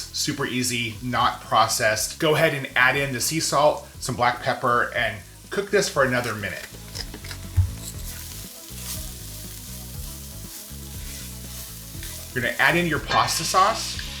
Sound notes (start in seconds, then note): 7.0 pepper mill grinds; 8.3 pan sizzles